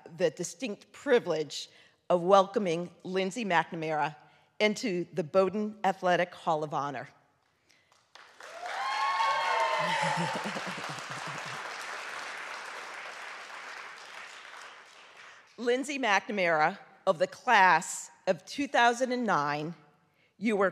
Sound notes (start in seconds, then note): 7.9 audience clapping; 8.4 audience cheering